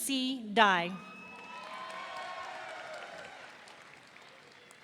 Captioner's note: audience cheering